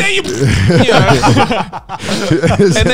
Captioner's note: laughing; imitating sharting noises